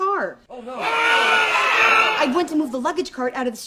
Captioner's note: shocked screams